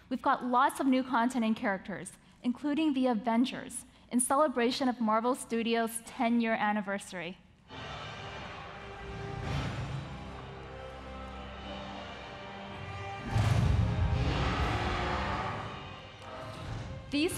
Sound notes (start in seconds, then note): 7.9 dynamic music; 9.6 Iron Man thuds; 13.2 Hulk thuds; 13.3 Hulk roaring